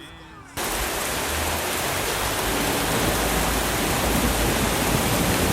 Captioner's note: heavy rain and thunder